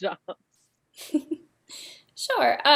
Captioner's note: laughter